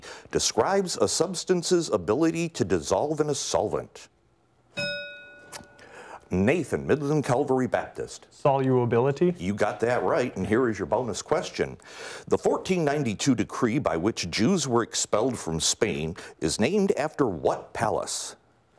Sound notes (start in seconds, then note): 4.7 bell rings